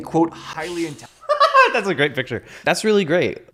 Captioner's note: laughs